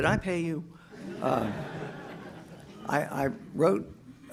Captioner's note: audience laughs